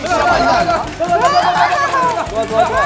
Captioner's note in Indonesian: Suara kelelahan